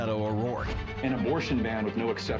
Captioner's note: HABLAN EN INGLéS